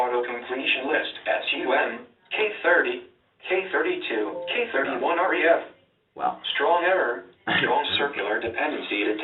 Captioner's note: computer speaking